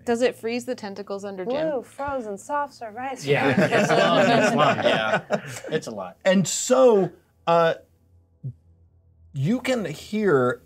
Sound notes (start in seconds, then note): 3.2 co-hosts laughing